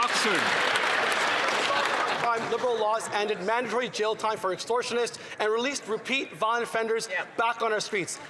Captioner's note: some Applause